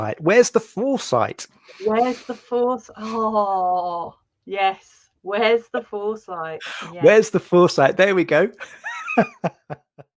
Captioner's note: laughs